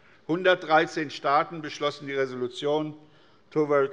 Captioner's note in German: none